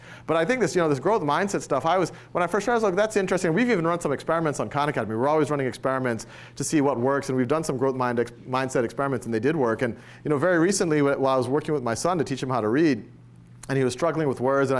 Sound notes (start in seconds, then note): none